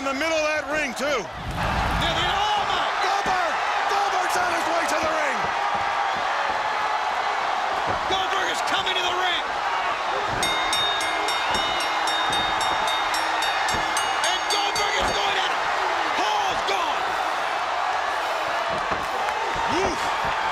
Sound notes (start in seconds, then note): 7.7 crowd cheering; 10.2 bell ringing; 12.8 crowd cheering